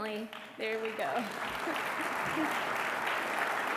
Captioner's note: applause